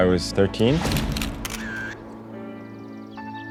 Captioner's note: camera shutter clicking